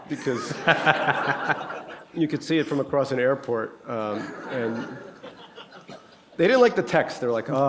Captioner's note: laughter